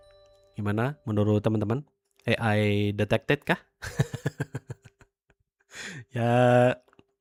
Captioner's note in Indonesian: tertawa